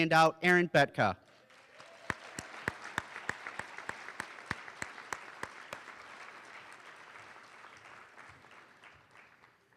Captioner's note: applause